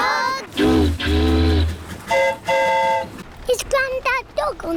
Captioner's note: train horn toots; boat horn honks